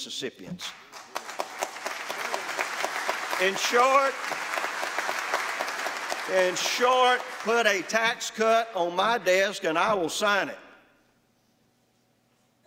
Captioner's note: applause